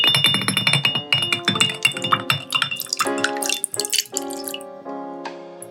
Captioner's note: smooth whiskey pouring